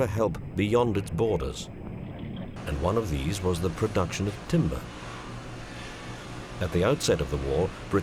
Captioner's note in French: sons industriel